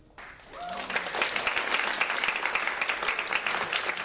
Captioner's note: audience clapping